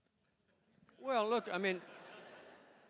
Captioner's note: laughter